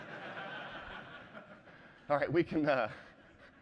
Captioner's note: laughter